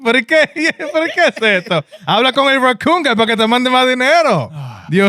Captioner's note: laughing; speaking In Foreign Language